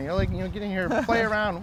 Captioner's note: güler